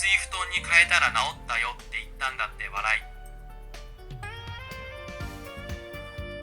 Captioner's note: laughs